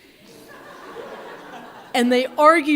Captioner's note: audience laughs